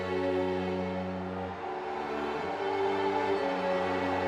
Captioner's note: tense pensive music; protesters yelling